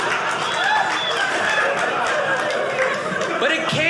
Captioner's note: audience laughing; audience cheering